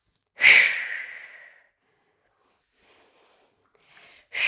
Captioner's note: breathing sharply